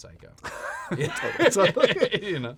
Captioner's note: laughter